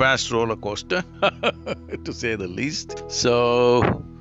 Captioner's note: laughs